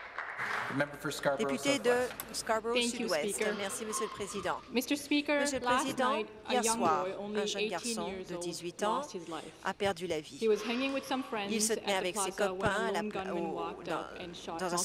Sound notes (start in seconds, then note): 0.0 applause